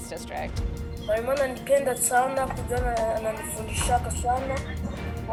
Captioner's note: speaks foreign language